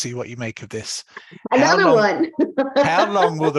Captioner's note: laughs